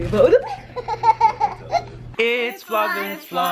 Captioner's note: giggles